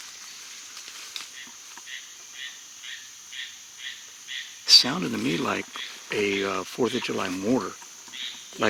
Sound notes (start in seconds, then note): 0.0 leaves crunching; 1.8 loud bird croaking